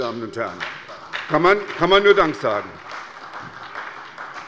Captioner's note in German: Beifall bei der SPD